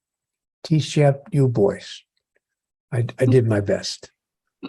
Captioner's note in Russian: Нил повторяет по-русски